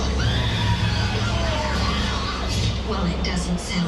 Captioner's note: people screaming